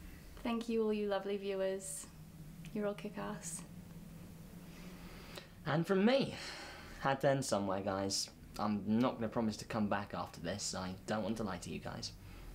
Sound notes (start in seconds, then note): 4.6 Ben takes a deep breath in; 6.4 breathes out